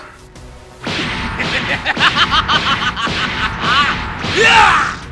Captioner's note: maniacal laughing